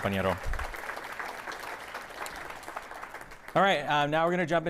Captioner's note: audience applauding